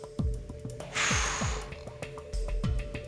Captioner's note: blowing